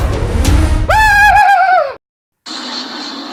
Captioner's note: girly screaming